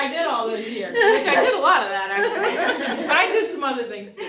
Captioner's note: laughter